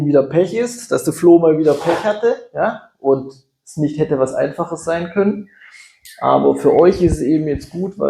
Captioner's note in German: schnauben